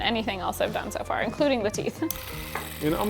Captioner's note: device clicking